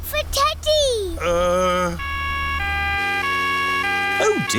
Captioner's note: siren wailing